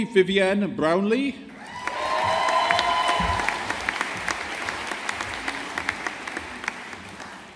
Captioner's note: audience applauding